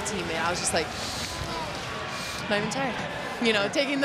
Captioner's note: inhales